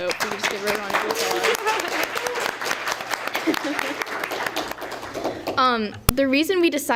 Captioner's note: applause